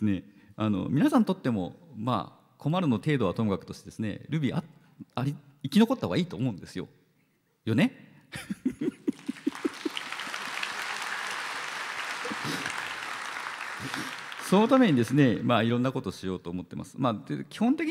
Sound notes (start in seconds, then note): 8.4 laughs; 10.4 applause